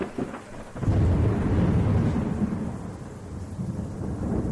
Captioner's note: thunder clapping